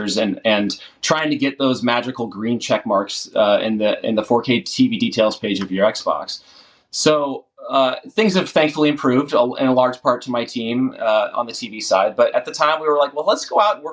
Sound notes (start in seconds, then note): none